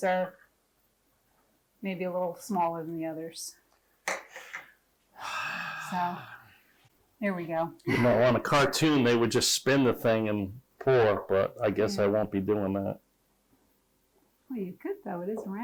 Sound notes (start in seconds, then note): 5.2 sighs